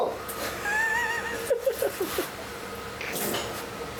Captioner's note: laughs